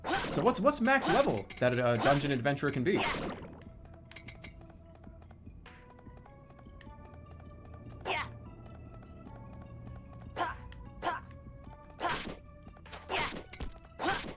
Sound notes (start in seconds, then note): 6.6 vroomer passes